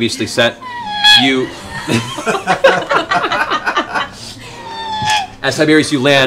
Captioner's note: laughter